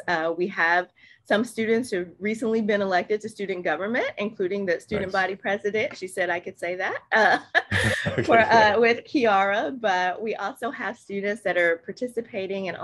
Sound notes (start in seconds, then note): 7.2 both laugh